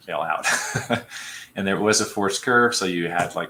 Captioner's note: laughter